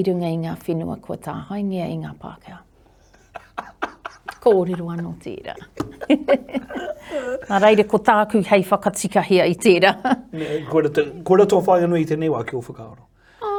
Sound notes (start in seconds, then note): 3.1 laughs